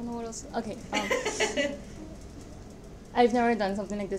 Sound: laughs

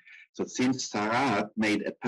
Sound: speaking in foreign language

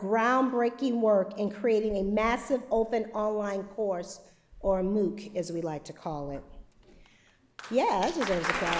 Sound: applause

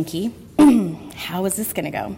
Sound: clears throat

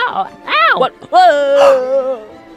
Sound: gasps; screams

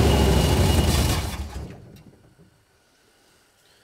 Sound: engine quits

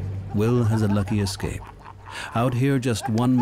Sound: divers laughing

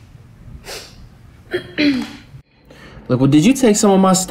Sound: Ja'Nelle sniffles

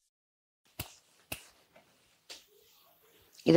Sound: snaps

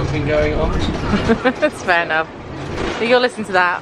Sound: giggling

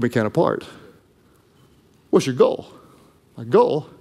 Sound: none

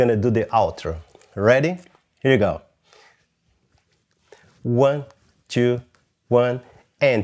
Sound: vocalizes rhythm

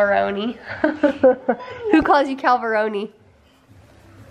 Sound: chuckles

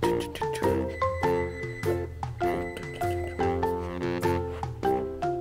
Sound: laughs

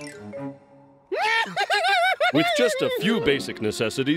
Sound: laughter

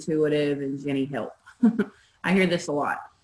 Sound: chuckling

